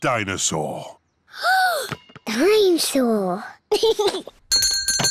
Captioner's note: gasps; giggles; bell rings